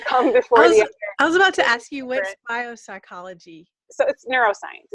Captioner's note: laughing; laughs